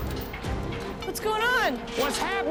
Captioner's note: none